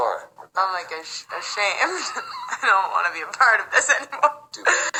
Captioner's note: laughs